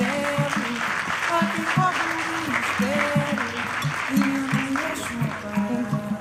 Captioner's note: applause